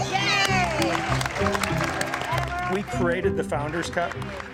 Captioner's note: cheering and clapping